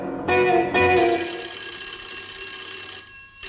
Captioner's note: phone rings